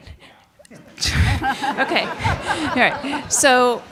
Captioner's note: audience laughing